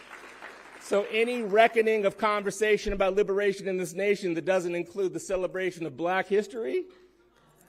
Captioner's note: cheering